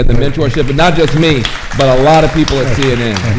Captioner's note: audience applauding